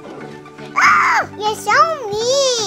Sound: yells

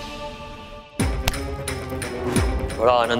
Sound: claps in anger

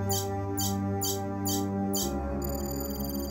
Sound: beeping

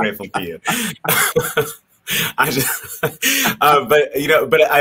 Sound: both laughing

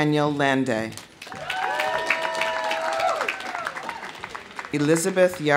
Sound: audience applauding; audience cheering

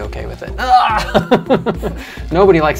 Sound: laughs

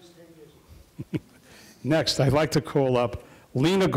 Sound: chuckles

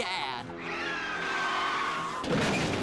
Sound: tires screeching

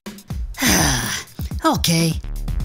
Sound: Dr. McTinker sighs

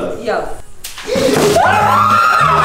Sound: gasps; everyone screams

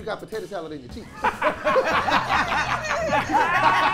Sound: laughing

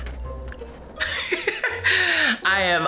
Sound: chuckles

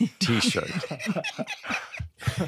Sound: laughter

